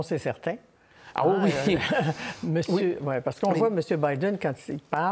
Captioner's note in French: rires